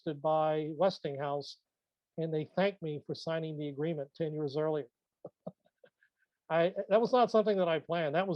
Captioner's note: laughs